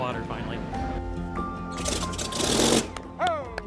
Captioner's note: engine sputters